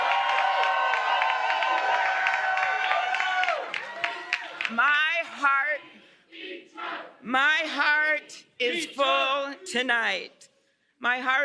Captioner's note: cheers and applause